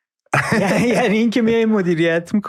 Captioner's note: laughs